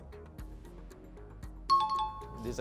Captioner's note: pulsing music; high-pitched tones